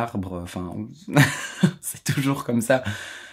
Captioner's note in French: rires